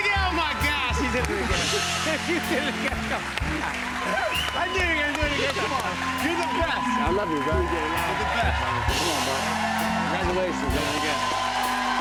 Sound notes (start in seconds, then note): 2.2 laughing